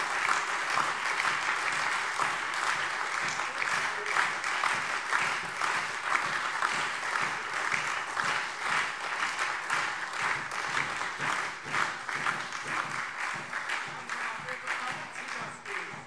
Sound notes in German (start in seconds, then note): 3.1 Anhaltender lebhafter Beifall SPD, Freie Demokraten und DIE LINKE